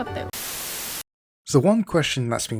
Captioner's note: TV Static